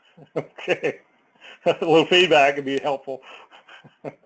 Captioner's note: laugh